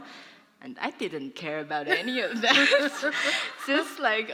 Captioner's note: laughter